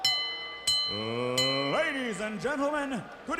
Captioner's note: bell ringing